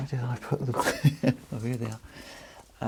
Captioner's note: laughs